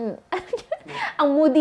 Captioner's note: giggles